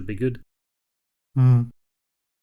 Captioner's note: humph